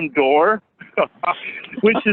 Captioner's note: laughs